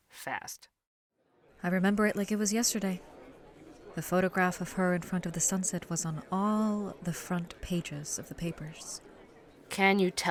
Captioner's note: coffee shop ambience